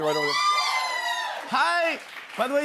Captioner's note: cheers and applause